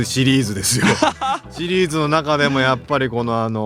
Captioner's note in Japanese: 笑い